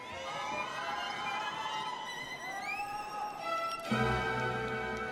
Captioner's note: audience shouting